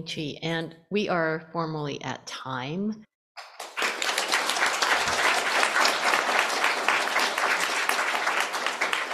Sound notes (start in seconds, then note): 3.4 applause